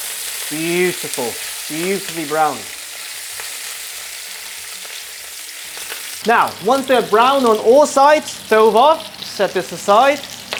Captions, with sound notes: beautiful, beautifully brown. [sizzling sound] Now, once they're brown on all sides, stove off, set this aside